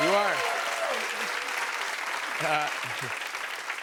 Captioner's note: cheers and applause